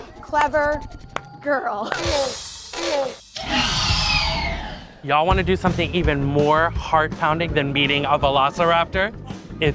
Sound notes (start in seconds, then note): 3.3 Blue roars